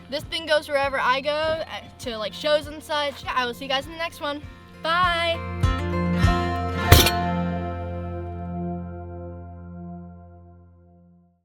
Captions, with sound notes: This thing goes wherever I go, to shows and such. Yeah, I will see you guys in the next one. Bye! (trunk closes) (gentle music)